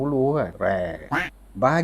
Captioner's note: quack!